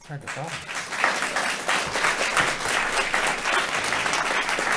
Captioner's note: audience applauding